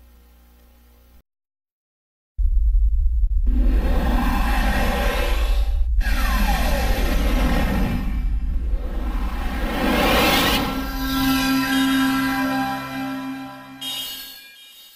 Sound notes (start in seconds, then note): 2.3 32-bit console startup sounds; 10.4 digitally-synthesized music and twinkling